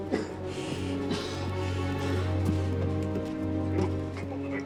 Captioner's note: coughing; dramatic music